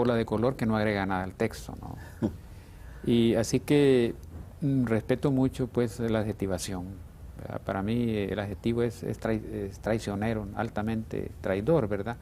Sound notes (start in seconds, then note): 3.4 ríe